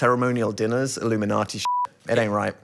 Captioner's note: beeping